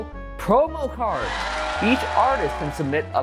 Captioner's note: people cheering